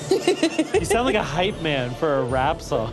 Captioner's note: laughs